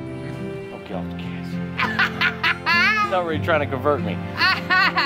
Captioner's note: laughs